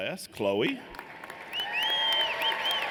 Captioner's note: applause